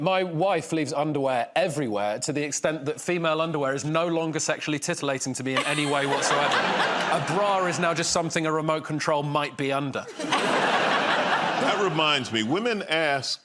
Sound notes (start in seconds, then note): 10.0 laughter